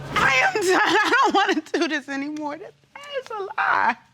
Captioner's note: sobbing